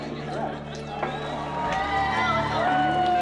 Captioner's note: applause